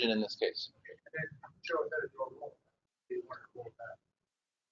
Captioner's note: talking